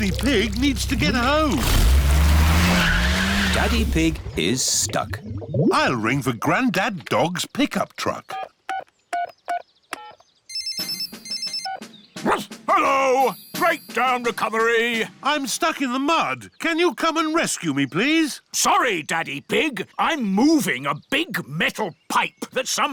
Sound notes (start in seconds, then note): 10.5 phone rings; 12.2 barks